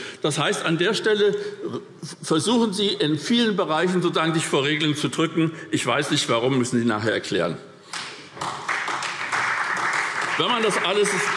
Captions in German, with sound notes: Das heißt, an der Stelle versuchen Sie sich in vielen Bereichen vor Regeln zu drücken. Ich weiß nicht, warum. Das müssen Sie nachher erklären. [Beifall SPD]